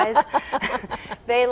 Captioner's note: laughing